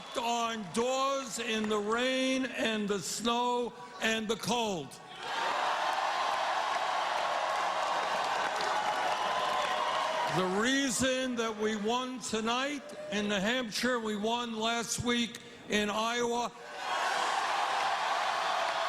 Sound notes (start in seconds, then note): 5.1 cheers and applause